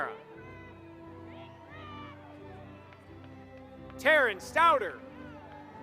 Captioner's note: applause